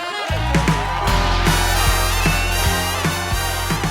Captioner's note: crowd cheers